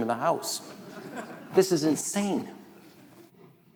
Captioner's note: audience laughing